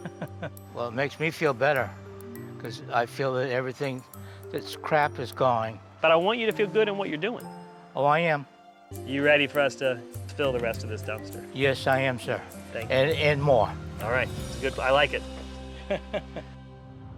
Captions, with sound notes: Well, it makes me feel better because I feel that everything that's crap is gone. But I want you to feel good on what you're doing. Oh, I am. You ready for us to fill the rest of this dumpster? Yes, I am, sir. And more. - All right, it's good. I like it.[Laugh]